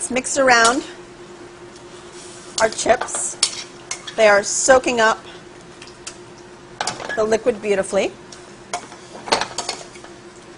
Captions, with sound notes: I WILL MAKE THIS ONE FOR HIM. [SIZZLING] LET THOSE EGGS COOK. I WILL ADD JUST A LITTLE BIT OF SALT AND PEPPER. LET'S MIX AROUND OUR CHIPS.